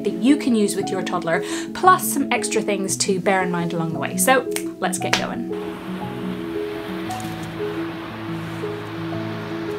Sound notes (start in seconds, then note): 5.1 snaps; 5.5 waves breaking